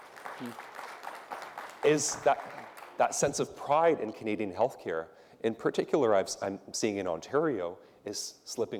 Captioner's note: applause